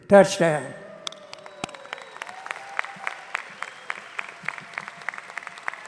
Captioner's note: audience applauding